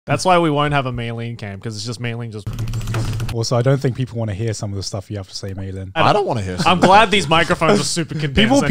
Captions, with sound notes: - That's why we won't have a Meilyne cam. 'Cause it's just Meilyne just. (computer keys rattling) - Also, I don't think people want to hear some of this stuff you have to say, Meilyne. - I don't want to hear some of the stuff. - I'm glad these microphones are super condensed